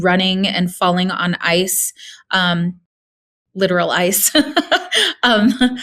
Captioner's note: laughing